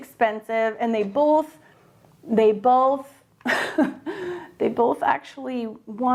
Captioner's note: laughs